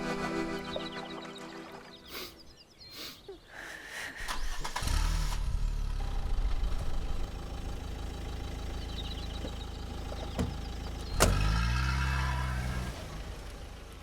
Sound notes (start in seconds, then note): 4.1 noise of car starting